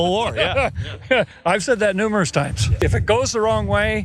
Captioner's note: laugh